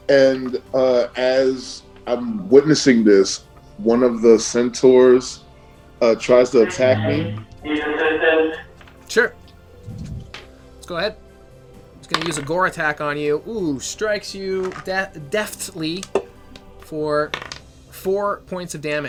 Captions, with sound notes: And as I'm witnessing this, one of the centaurs tries to attack me. (robotic voice) - Sure. Let's go ahead. It's going to use a gore attack on you. Ooh. Strikes you deftly for four points of damage